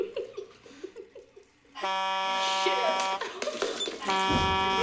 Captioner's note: both Laughing; buzzer